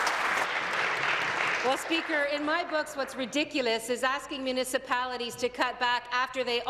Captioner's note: applause